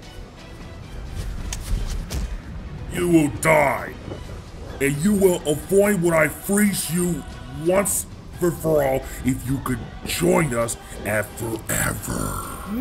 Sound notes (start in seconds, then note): 2.0 thud